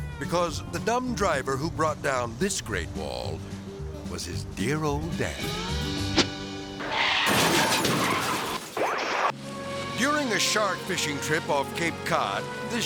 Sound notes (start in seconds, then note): 5.1 twangy music; 6.7 car skidding; 7.1 glass shattering; 8.7 screen static